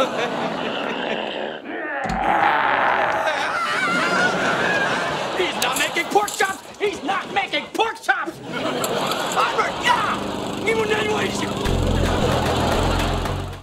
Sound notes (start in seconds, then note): 0.1 growling; 1.7 screaming